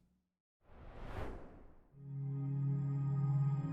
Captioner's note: air whooshing; gentle music